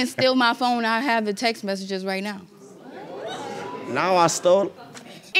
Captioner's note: audience exclaiming